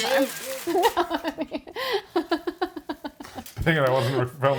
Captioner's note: laughs